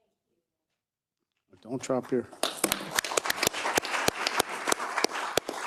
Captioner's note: audience clapping